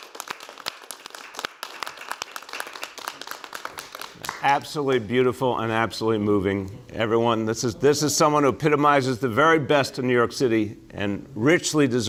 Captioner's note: applause